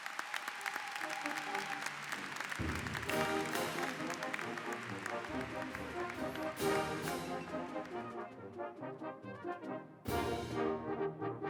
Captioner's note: �cheers and applause�